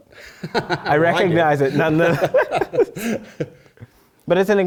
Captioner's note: laugh